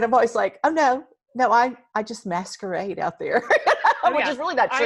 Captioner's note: laughs